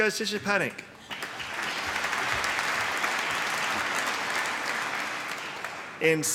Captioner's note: applause